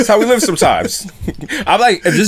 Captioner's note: laughter